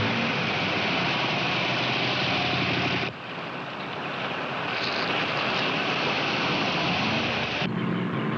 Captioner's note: motor revving